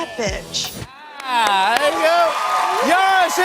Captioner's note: cheers and applause